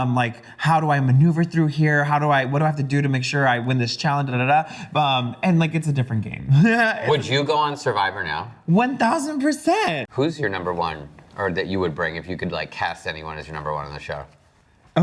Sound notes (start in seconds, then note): 6.7 laughs